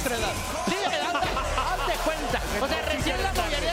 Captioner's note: laugh